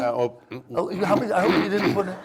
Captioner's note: clears throat